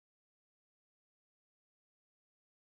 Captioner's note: none